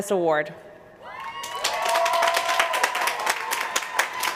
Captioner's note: applause